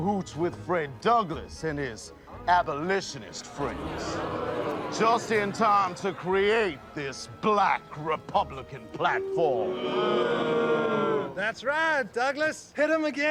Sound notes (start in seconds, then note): 9.0 booing